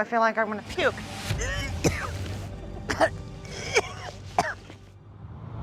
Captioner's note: retching